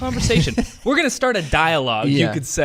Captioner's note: laughs